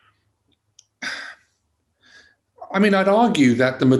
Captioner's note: sighs